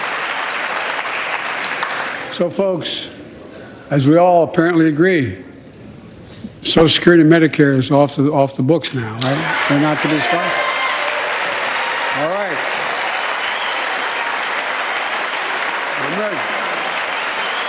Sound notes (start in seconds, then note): 6.2 applause